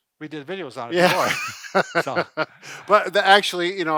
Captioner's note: laughs